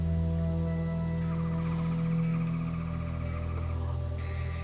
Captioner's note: Sonic screwdriver buzzing